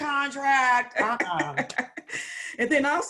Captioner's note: laughs